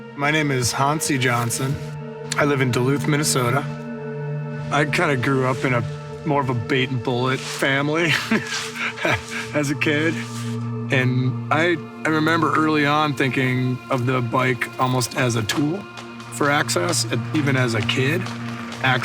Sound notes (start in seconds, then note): 8.0 laughs